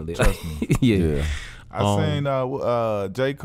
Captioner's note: laughs